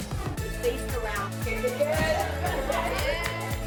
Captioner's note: crew laugh